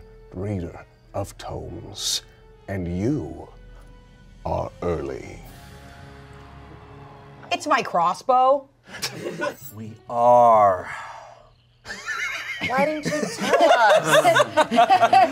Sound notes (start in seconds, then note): 5.8 dramatic music; 8.9 everyone laughs; 11.9 everyone laughs